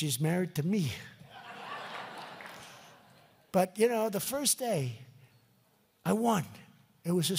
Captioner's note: laughter